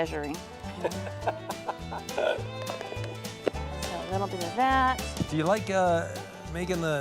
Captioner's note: laughter